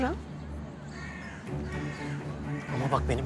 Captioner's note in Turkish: Karga sesleri